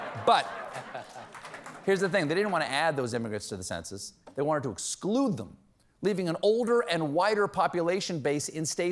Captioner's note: laughter